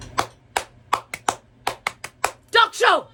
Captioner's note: claps rhythmically